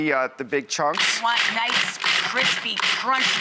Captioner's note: food processor grinding